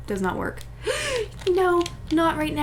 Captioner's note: gasp